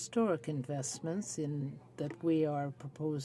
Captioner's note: speaking French